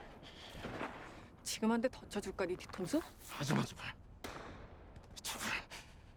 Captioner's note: speaking in foreign language